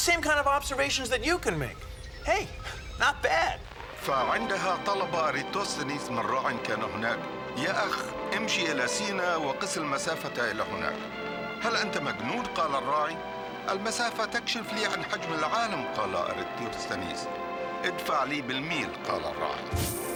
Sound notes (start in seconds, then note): 4.7 narrator speaking arabic